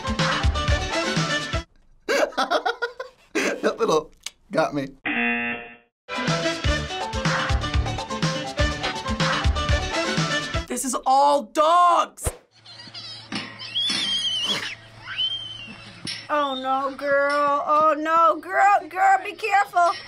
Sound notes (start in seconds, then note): 3.9 click; 12.3 girl screaming